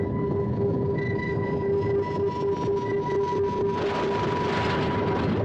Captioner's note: relâmpagos crepitam